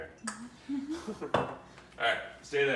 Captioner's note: chuckles